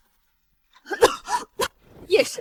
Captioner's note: cough, cough